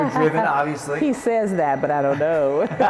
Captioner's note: laughs; laughs